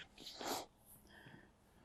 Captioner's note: sniffing